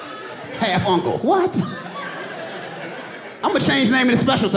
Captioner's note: audience laughs